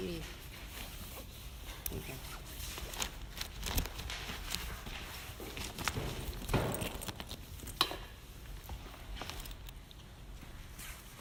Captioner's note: more papers rustling, etc, sounds of searching